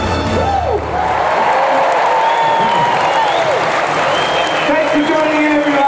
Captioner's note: applause and cheering